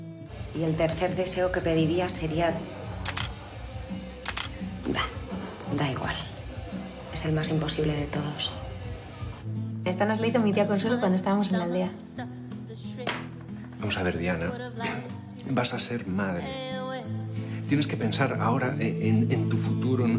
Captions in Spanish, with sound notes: Y el tercer deseo que pediría sería... (Disparos cámara) Va, da igual. Es el más imposible de todos. Mira, esta nos la hizo mi tía cuando estábamos en la aldea. Vamos a ver, Diana, vas a ser madre, tienes que pensar ahora en tú futuro...